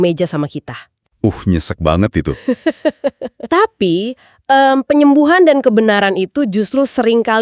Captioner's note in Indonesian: tertawa